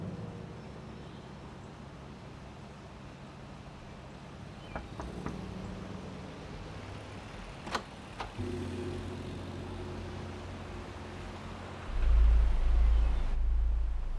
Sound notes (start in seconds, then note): 4.4 knocking on door; 8.2 tense music